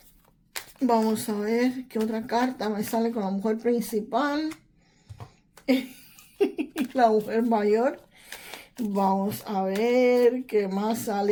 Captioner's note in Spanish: risas